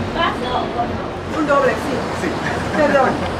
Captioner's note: in Spanish